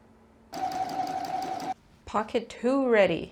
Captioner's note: sewing machine noises